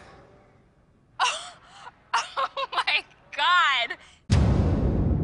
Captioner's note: strums chord; gasps, laughing